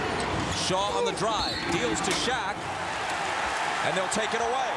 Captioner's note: whistle blows